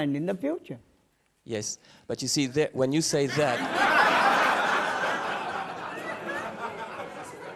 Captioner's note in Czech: smích